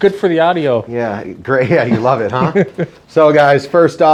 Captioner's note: chuckles